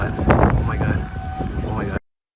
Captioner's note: siren